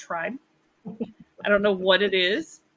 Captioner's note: laughs